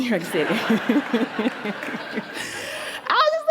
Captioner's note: laughter